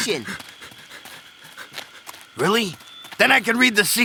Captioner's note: panting